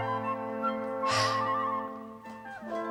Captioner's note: sigh